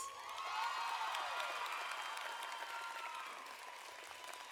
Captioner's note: audience applauding